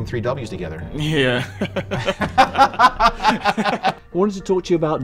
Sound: laughing

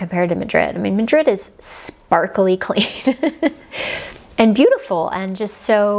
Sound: giggles

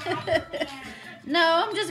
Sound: laughing

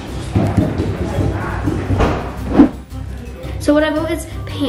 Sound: heavy footsteps

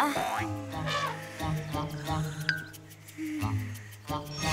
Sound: elephant trumpets

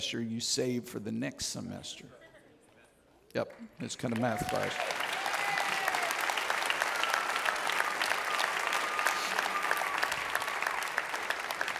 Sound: audience Cheers

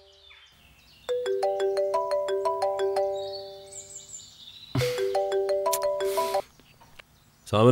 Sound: phone rings

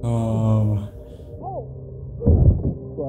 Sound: grunts

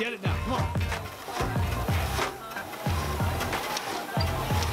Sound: machine whirs

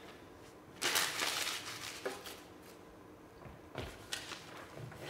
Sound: paper crunches

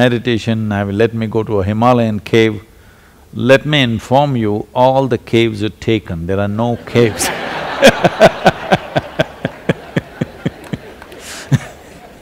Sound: laughter

